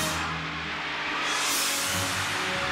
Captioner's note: engine revs